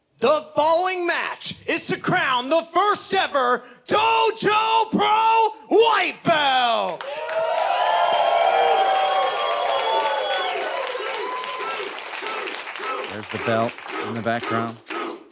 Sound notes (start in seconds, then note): 6.9 audience applauds and cheers